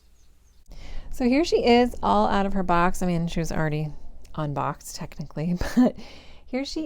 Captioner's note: giggle